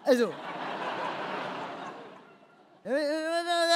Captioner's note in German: Lachen